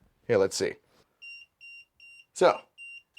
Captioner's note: transmitter beeping